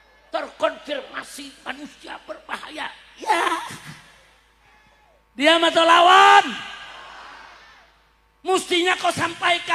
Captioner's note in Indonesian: berteriak